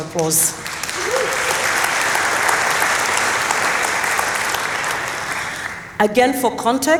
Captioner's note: applause